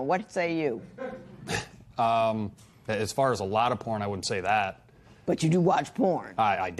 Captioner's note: chuckles